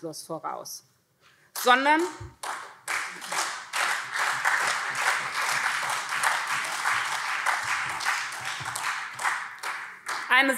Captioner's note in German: Beifall SPD und CDU